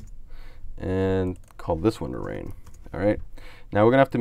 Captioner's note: types on keyboard